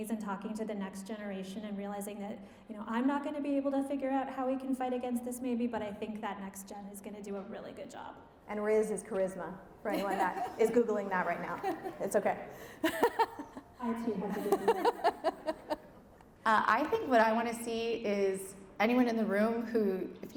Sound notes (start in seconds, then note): 12.6 laughing